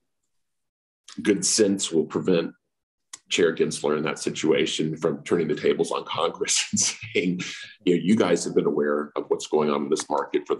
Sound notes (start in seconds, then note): 6.7 laughs